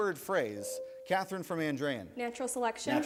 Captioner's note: buzzer rings